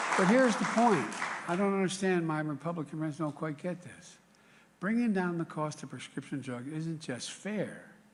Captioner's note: applause